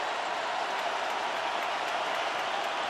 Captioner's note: crowd cheering